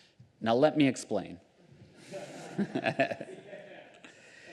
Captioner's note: laughter